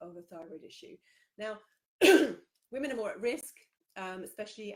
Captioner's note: coughs